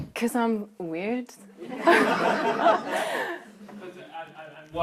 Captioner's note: laughter